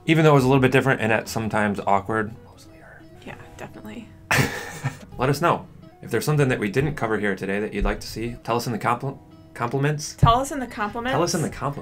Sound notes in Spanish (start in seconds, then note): 2.7 Susurros; 4.3 risas